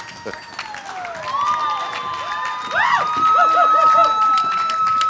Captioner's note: cheers and applause